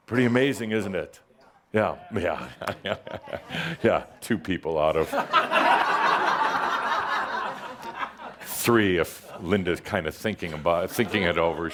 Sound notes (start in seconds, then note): 1.4 a couple of people say “Yeah”; 4.3 chuckles; 7.5 laughter